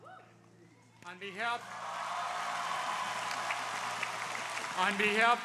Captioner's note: crowd applauding